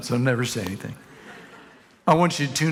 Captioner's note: congregation laughing